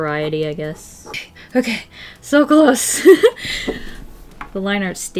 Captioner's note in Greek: Γέλια